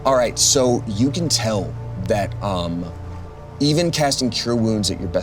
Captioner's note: none